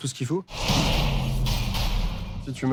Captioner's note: gunshots